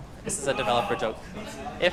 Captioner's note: scattered laughter